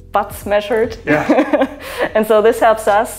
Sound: laughs

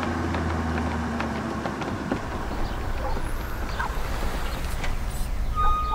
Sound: rubber flopping

